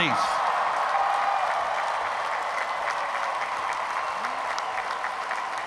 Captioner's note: loud cheering